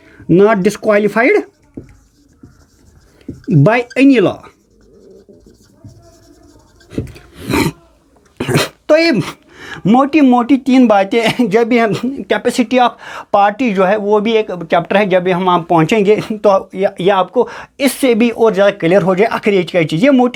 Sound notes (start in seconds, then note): 7.7 nasal sound; 8.4 sound of clearing throat; 11.5 laughter